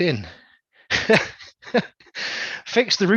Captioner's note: laughs